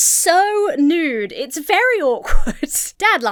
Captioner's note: Emma chuckles